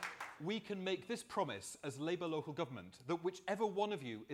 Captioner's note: applause